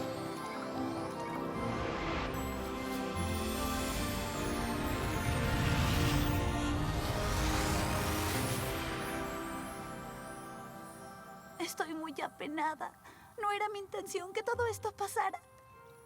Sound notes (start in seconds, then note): 5.4 whoosh